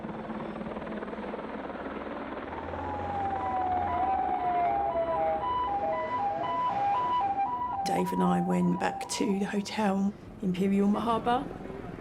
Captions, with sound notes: [helicopter blades whirring] [sirens wailing] - Dave and I went back to the hotel, Imperial Marhaba.